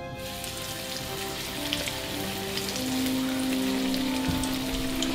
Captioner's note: oil frying